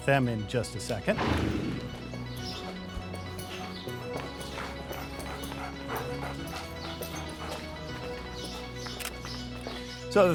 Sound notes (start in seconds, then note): 4.7 uptempo synth music; 7.0 dog panting; 8.7 uptempo synth music